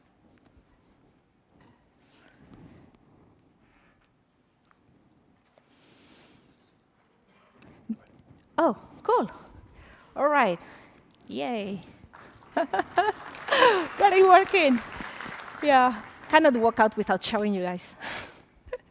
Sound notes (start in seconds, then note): 12.1 applause; 12.2 laughter